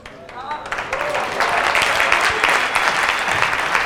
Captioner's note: audience applause